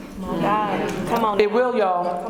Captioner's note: murmurs